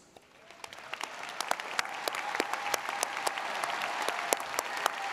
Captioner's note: audience applauding